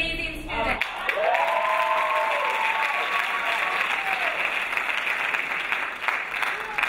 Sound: crowd applauding; crowd cheering

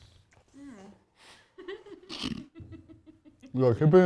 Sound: laughing

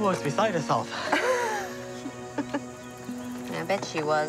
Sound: laughing

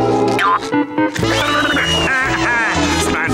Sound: laughing

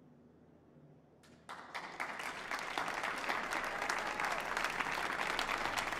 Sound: audience applauding

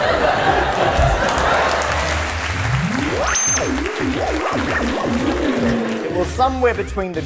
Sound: audience laughter; high pitched, changing, electronic tone

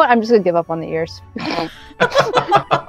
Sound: laughter

